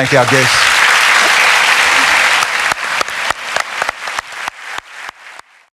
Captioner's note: applause